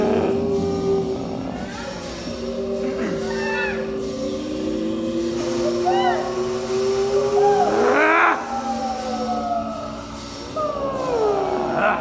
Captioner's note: grunting; grunting